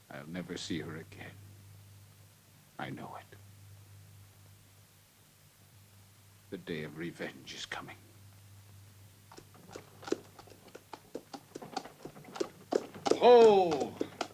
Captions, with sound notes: - I'll never see her again. I know it. The day of revenge is coming. (hooves clopping) - Ho!